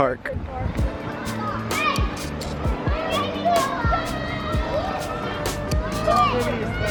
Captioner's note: bright music; children cheering excitedly